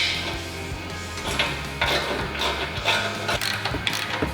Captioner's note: ratcheting